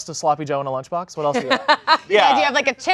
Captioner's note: laughing